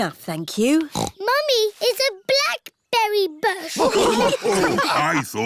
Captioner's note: snorts; all laughing